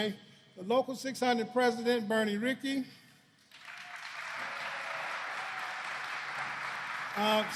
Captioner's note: applause